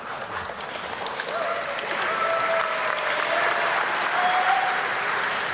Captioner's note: audience applauding